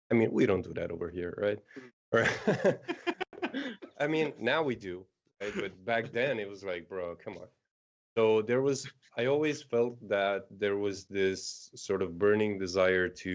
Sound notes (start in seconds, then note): 2.2 laughter